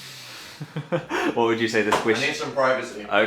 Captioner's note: laughing